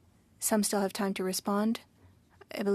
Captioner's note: speaking French